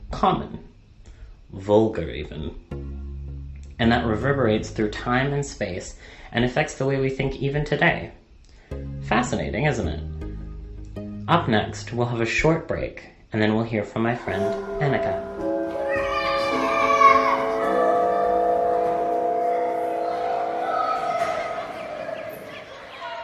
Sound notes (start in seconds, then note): 15.5 children laughing; 15.9 church bell ringing